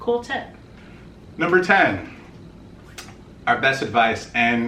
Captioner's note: smacks